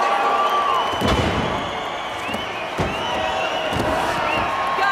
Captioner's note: applause